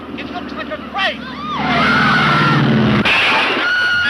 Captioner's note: women screaming; plane thudding; women screaming